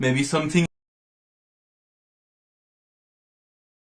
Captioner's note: silence